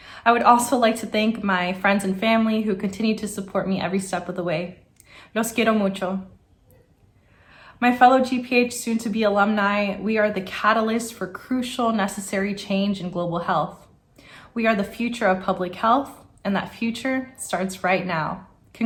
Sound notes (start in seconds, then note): 5.5 foreign language